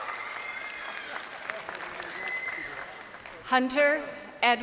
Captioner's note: crowd cheering